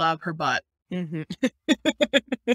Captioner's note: laughter